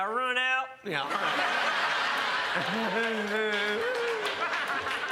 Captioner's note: crowd laughs